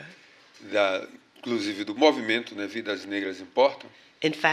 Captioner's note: speaking portuguese